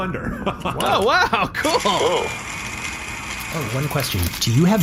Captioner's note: blender whirring